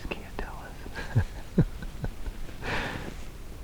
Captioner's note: laughing